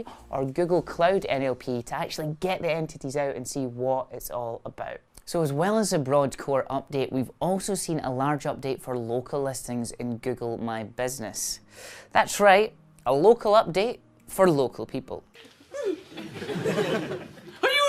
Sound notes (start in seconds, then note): 15.6 laughs; 15.7 gasps